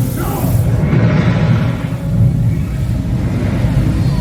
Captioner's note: fire sound